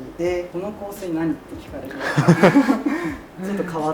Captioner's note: laughs